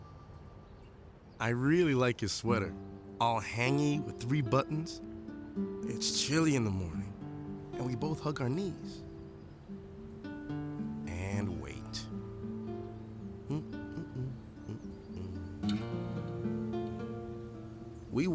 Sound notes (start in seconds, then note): 13.4 humming; 15.6 soft guitar music